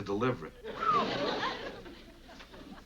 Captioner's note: whistles